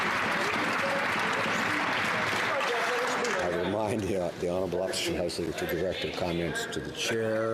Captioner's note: some Applause